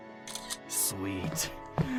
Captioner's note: camera shutter clicks